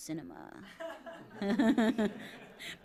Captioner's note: laughter